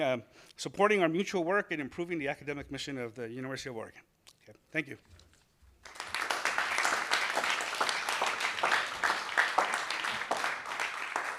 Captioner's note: applause